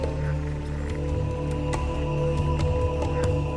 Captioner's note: soft drumming; men chanting